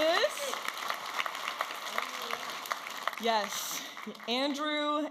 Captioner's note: audience applauding and cheering